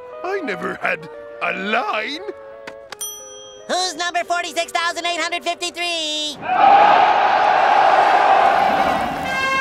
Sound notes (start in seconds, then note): 6.4 cheering; 8.5 trumpets playing